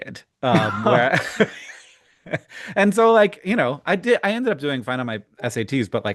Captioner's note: chuckles